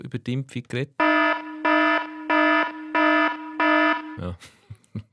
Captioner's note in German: Alarm